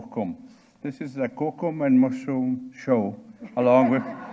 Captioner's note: speaking in Cree